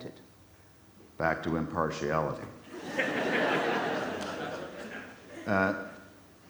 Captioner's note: audience laughs